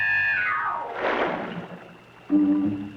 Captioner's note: splash